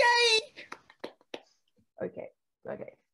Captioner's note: AMON Claps